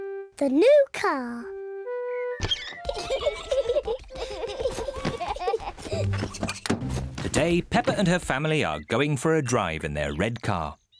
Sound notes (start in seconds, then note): 2.6 both laughing